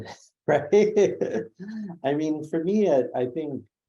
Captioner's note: laugh